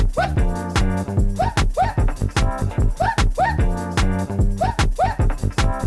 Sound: woo woo

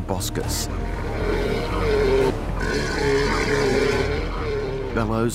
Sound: roars

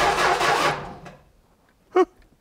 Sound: engine quits

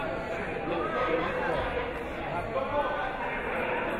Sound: crowd chatter

